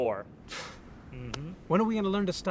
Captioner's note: scoffs